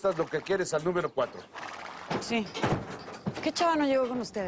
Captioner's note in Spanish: Resoplidos